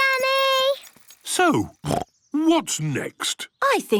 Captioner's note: snorts